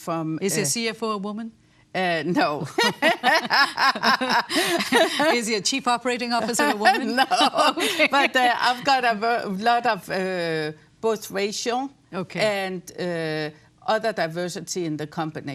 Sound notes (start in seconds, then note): 2.6 laughter